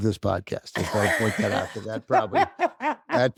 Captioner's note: laughs